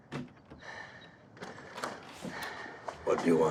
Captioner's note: none